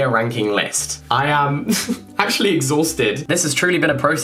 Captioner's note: giggling